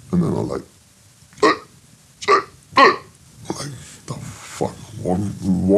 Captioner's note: imitates shouting